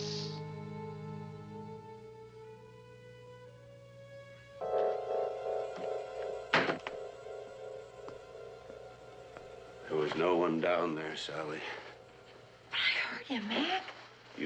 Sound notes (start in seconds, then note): 0.0 air stops escaping